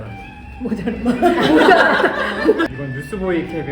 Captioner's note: haha